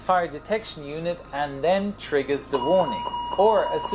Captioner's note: aural fire warning sounds